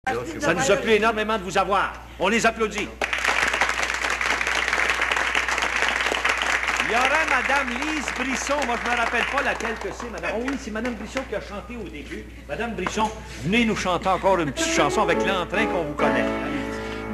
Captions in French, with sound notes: Ça nous a plu énormément de vous avoir! On les applaudit! (applaudissements) Il y aurait madame Lise Brisson... Moi, je me rappelle pas laquelle que c'est, madame... Ah oui, c'est madame Brisson qui a chanté au début. Madame Brisson, venez nous chanter encore une petite chanson avec l'entrain qu'on vous connaît.